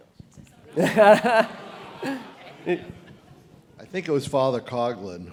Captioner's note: laugh